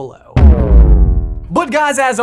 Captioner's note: graphic blipping